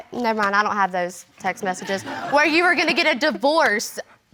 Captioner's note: chuckles; audience laughing